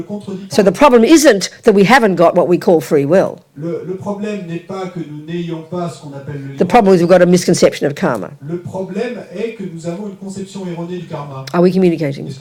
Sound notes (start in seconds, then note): 4.2 speaking in French; 8.2 speaking in French